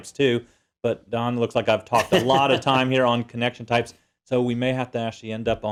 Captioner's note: laugh